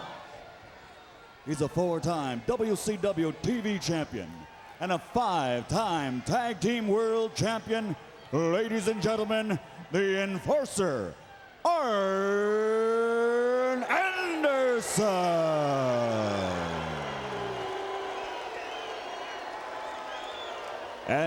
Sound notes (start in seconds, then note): 13.5 crowd clamoring